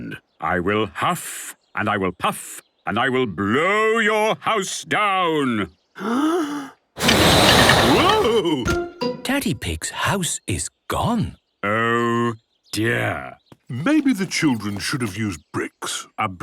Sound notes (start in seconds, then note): 6.0 inhaling deeply; 7.0 blowing